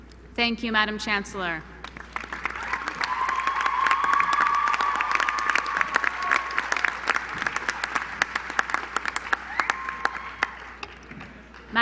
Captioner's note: applause